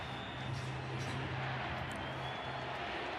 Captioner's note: crowd cheering